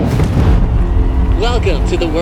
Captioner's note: burbling; cheering